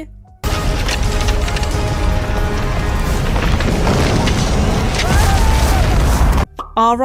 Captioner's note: dramatic sound effects